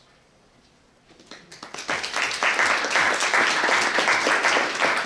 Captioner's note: clapping